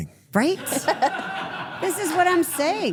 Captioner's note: everyone laughs